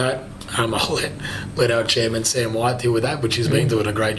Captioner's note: chuckling